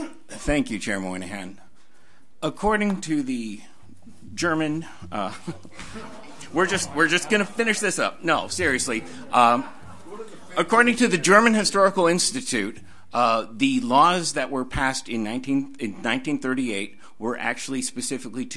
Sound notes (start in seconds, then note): 5.2 audience laughs; 5.6 overlapping chattering